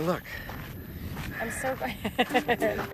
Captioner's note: laughs